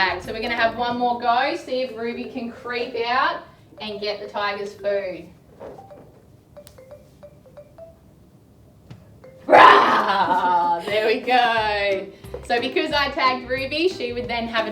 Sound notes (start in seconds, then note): 9.5 roaring